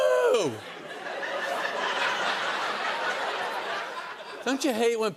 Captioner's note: laughter